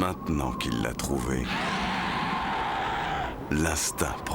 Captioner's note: dragon screeching